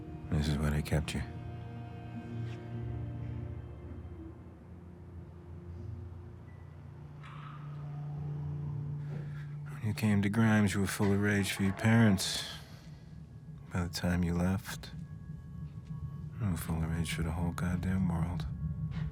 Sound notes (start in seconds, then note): 7.2 lights buzzing; 7.2 lights clicking